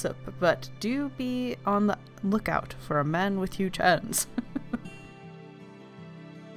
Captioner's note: laughs